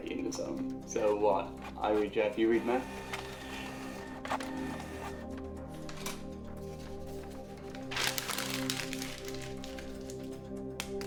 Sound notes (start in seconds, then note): 1.4 printer whirs; 8.1 dramatic music